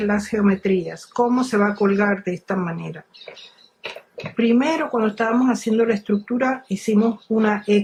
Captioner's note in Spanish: carraspeo